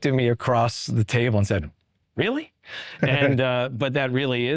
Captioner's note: chuckling